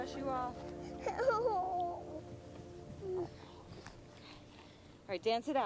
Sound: whining

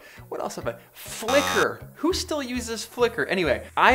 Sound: buzzer

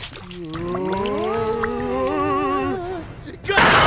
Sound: moaning

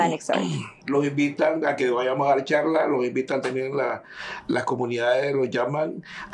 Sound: speaking in Spanish

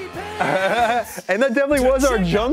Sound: laughs

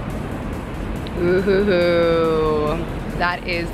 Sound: chuckles

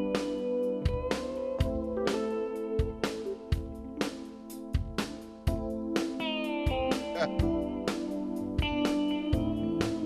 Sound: chuckling

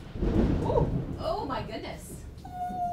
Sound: even louder thunder

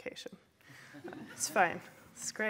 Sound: laughter

